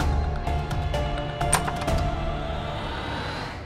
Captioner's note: door opens